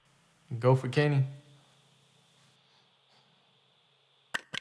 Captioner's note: static crackles